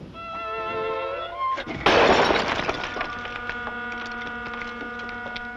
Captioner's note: crashing noise